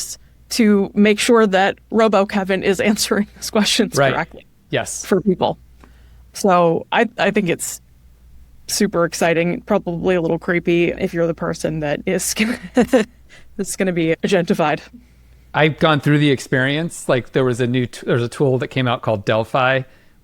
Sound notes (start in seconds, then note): 12.4 chuckles